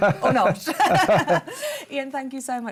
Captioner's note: laughter